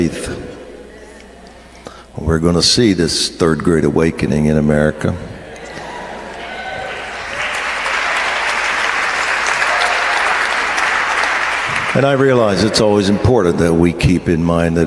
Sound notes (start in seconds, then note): 9.5 audience applauds